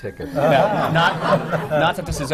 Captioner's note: laughter